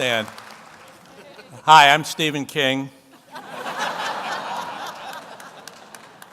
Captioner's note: audience laughs